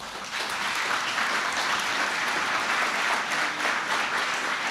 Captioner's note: applause